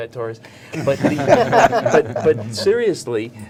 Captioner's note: everyone laughing